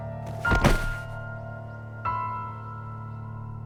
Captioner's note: thud…